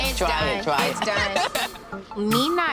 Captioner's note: laughing